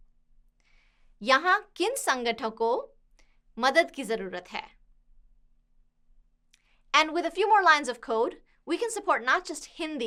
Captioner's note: speaking hindi